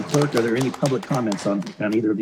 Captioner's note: applause